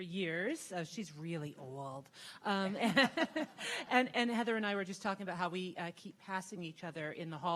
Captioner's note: audience laughing